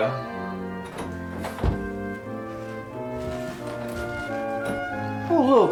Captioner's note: door opening and footsteps